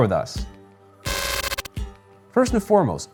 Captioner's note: electric buzzing